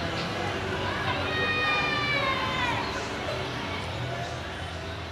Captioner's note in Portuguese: Sons ambiente de rua